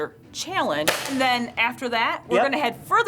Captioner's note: shot fires